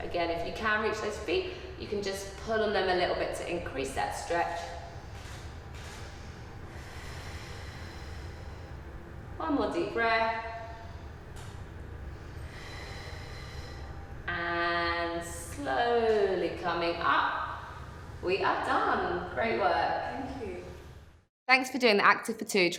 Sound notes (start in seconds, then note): 5.8 breathing